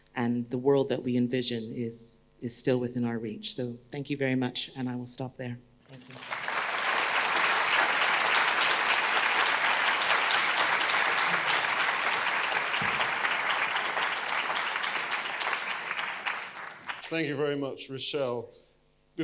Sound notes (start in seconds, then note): 6.0 audience applauding